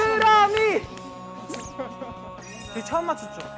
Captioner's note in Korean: 헤헤헤